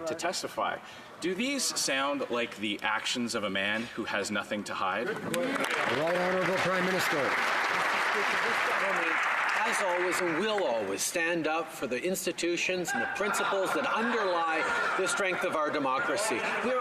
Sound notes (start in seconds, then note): 8.7 some Applause